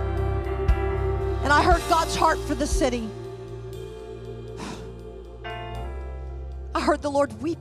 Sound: sighing

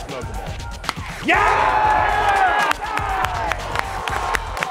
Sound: cheering and applause

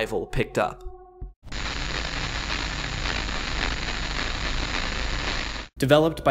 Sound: audio static

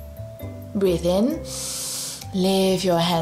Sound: breathes in deeply

